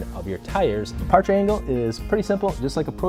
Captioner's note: whoosh